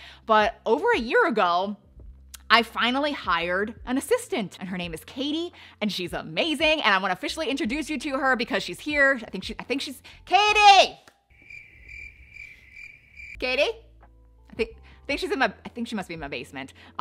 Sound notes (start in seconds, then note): 11.3 crickets chirping